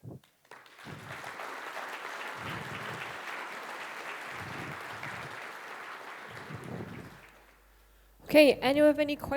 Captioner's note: applause